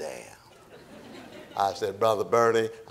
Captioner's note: audience laughing